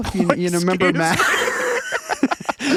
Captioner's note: laughing